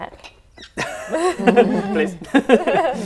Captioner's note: laughing